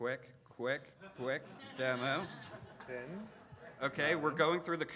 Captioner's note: laughing